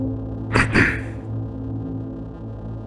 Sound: clearing throat

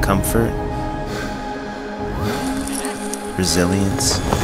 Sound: labored breathing

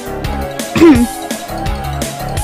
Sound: clears throat

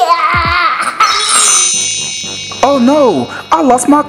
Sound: chimes

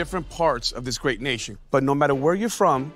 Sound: none

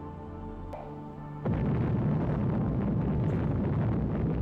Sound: explosion booming

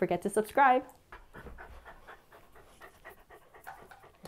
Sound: dogs panting

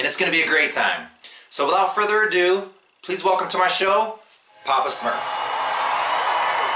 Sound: applause

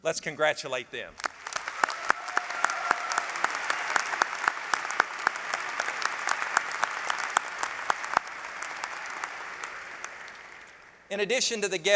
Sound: applause

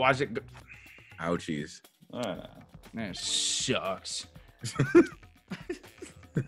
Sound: laugh

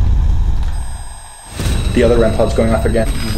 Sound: beeps

